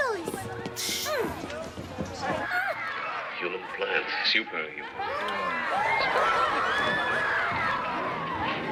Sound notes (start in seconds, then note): 4.8 loud chatter